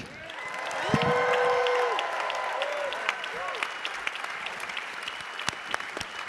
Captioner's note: audience cheering; audience applauding